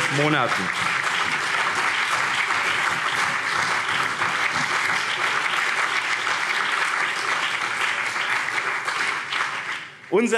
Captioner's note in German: Beifall BÜNDNIS 90/DIE GRÜNEN